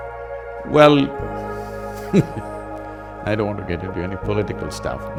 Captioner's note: laughs